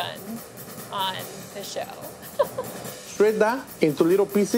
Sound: laughing

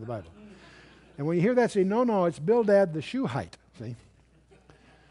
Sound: laughter

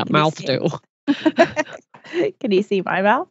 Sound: laughs

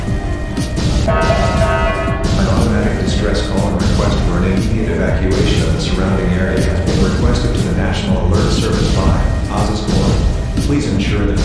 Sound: announcement Chime

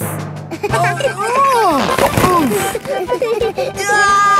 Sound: giggling; grunting; giggling

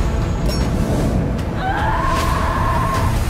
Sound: tense music plays; screams

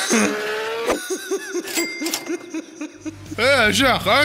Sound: laughter

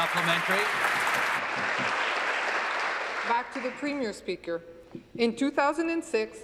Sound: applause

